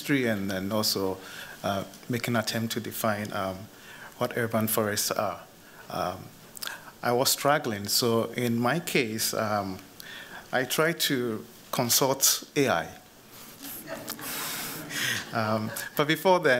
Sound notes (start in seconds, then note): 13.6 laughter